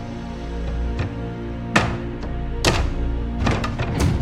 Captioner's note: loud creaking as wood is pried loose; hammering